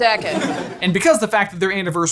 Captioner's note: audience laughing